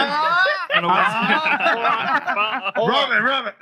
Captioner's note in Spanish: Gritos del público; Risas; Gritos de la multitud; Risas